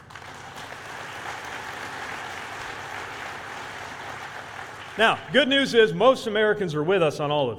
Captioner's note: applause